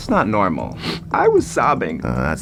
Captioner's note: ESFP sniffs